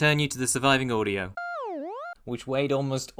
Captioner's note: smw_goal_iris-out.wav